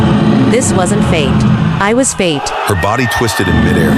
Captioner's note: screaming aloud